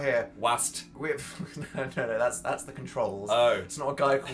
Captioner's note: laughs